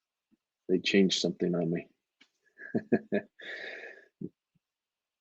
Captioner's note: laughs